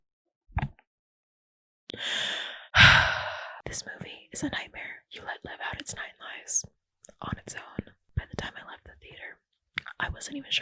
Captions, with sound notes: (heavy sigh) "This movie is a nightmare you let live out "its nine lives on its own." "By the time I left the theater, I wasn't even sure